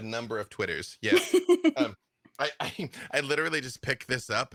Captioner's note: laughs